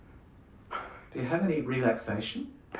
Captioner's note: chuckling